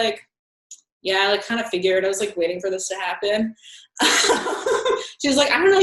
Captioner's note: laughing